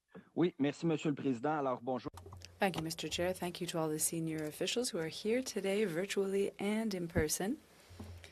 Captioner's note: speaking French